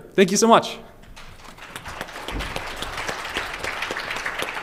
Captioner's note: applause